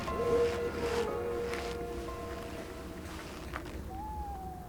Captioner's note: wolf howling